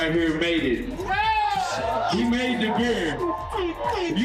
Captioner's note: cheering